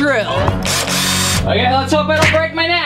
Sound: dramatic music; drill whirring

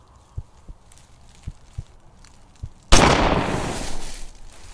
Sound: heart pounding; gun fires

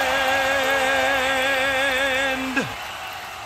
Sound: crowd cheers

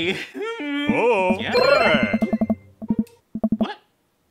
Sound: random Game Noises

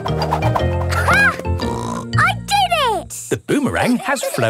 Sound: snorts

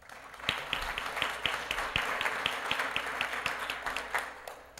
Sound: applause

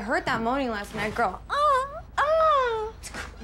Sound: moaning

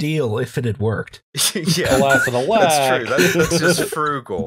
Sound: laughter

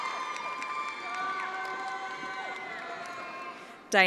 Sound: attendees applauding

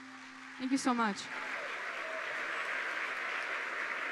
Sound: audience applauding; audience cheers; audience applauding continues

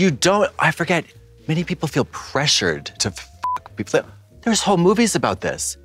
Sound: beep

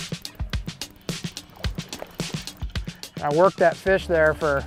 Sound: water splashing

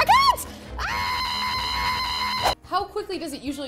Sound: she screams

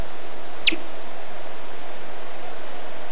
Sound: bat chirp

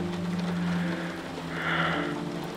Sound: deep breath

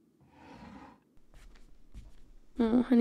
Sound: footsteps

